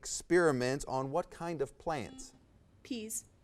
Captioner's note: buzzer buzzes